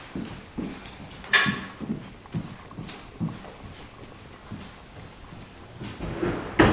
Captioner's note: footsteps thudding; object clattering